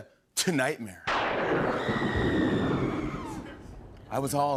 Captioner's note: thunder crashes, woman screams